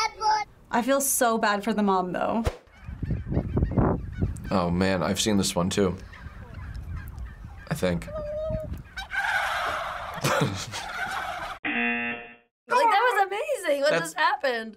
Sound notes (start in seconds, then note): 8.2 turkeys gobbling; 8.8 imitates turkey call; 11.6 buzzer